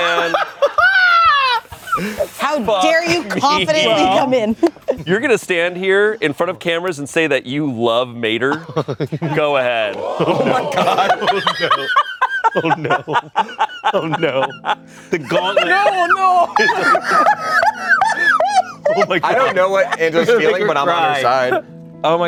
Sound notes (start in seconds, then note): 0.0 everyone laughs; 11.0 laughs; 16.9 everyone laughs